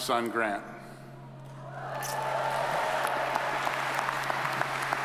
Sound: audience applauds

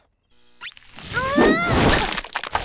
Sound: groaning

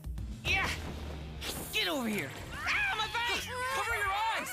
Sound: hissing

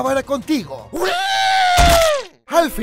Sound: Dio getting fucked up

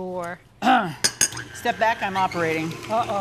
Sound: knife clinks

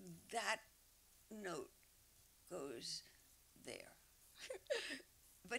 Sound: laughs

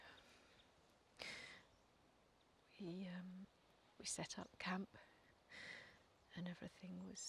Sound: none

